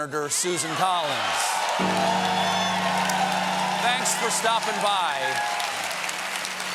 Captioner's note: cheers and applause